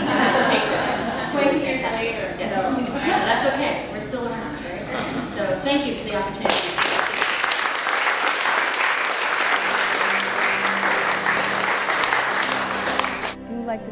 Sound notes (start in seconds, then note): 0.0 laugh; 6.4 applause